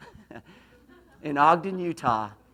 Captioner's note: laughs